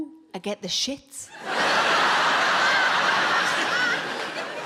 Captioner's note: audience laughing